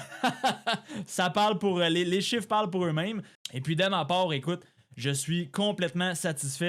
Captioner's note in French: rires